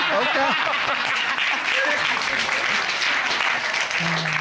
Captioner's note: applause